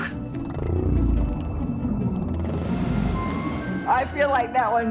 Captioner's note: imitates whale vocalizing; whale purrs